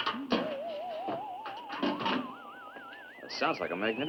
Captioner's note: radio whistling